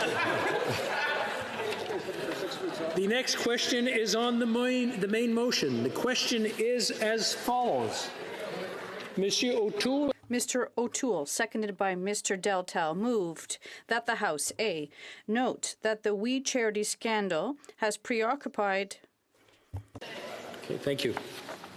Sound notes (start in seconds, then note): 2.9 laughter